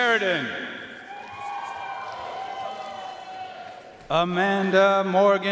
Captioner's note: audience cheering and applauding